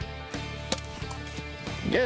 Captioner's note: hits ball